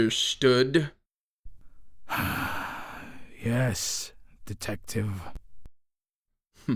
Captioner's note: sighs